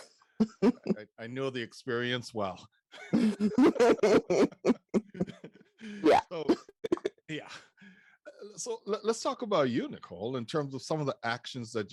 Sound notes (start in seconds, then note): 3.0 both laughing